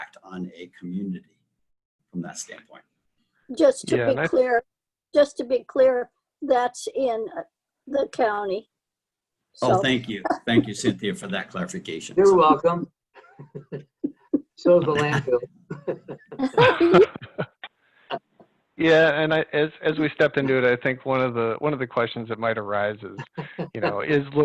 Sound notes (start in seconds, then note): 13.2 laughs